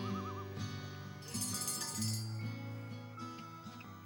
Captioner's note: bell rings